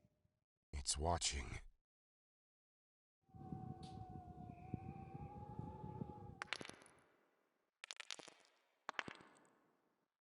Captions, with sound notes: It's watching. *crack* *crack* *crack*